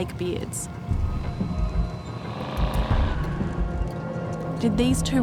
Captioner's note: suspenseful music; car rumbling